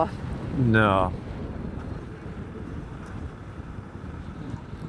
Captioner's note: wind blowing